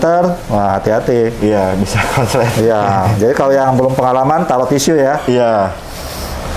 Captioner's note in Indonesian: tertawa kecil